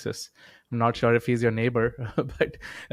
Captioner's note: chuckling